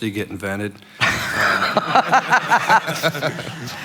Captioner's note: laughing